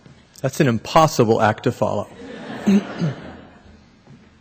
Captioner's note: laughter